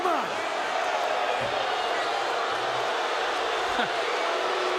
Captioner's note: audience shouting